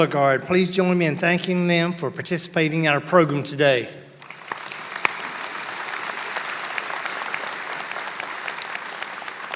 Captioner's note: applause